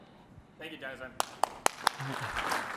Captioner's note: applause